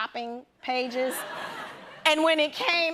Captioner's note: laughter